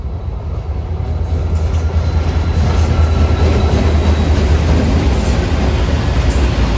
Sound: train rumbling

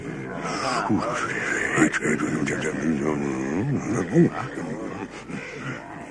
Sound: muttering

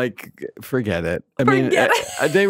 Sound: laughs

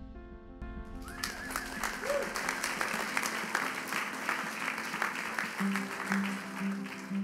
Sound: audience applauding; audience cheering

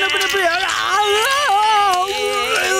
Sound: screaming in pain

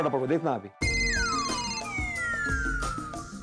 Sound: phone ringing

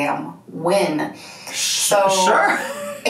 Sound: laughs

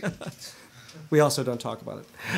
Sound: laughter

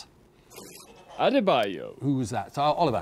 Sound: buzzer buzzes

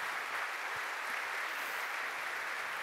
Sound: applause

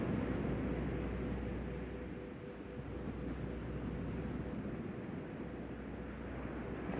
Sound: soft music; waves breaking distantly

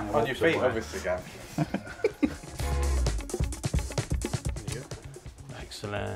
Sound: laughter

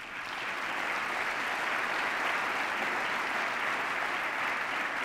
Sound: cheers, applause

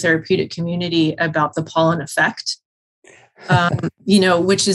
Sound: chuckles

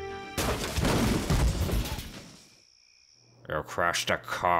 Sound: car crashing

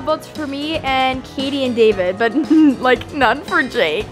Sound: giggles

